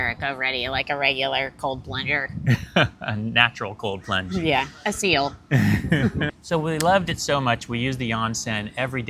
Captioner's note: laughter